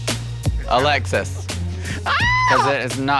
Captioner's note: screams